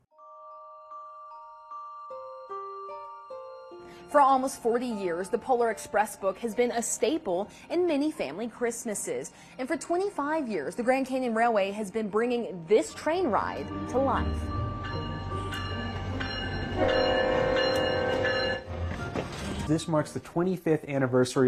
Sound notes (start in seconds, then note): 0.1 gentle music; 14.7 upbeat music; 15.6 train hooting and ringing